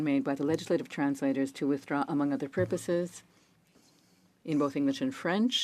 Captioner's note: speaking French